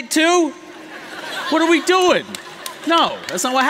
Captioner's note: laughter